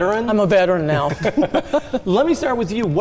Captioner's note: laugh